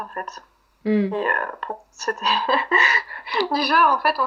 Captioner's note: laughs